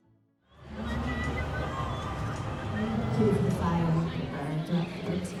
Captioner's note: audience chattering